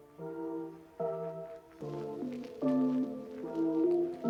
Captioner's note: confused